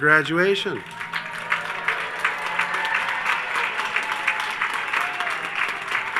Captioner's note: audience cheers and applauds